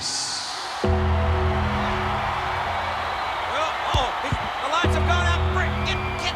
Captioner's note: applause